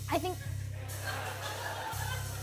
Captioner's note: laughter